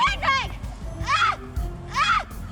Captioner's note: yells